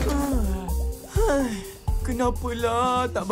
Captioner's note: both groan; Amato sighs